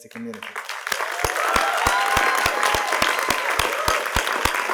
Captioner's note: audience applauding